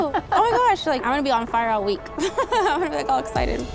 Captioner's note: laughs